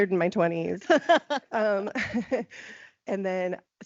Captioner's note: laughing